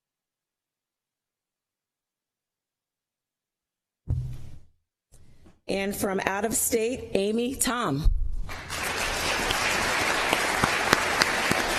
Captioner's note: applause